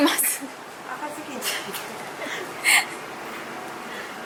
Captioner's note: laughs